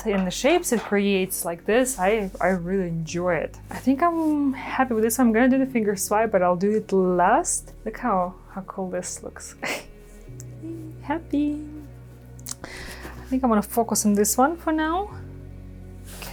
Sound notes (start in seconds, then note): 10.2 chuckles